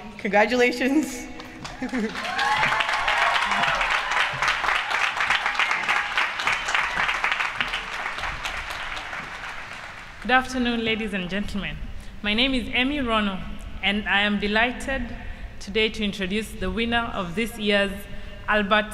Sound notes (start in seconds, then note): 1.4 applause